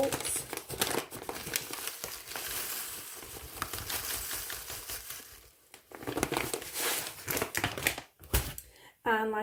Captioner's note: paper bag rustling oats falling into metal cup